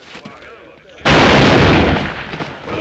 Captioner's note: bang!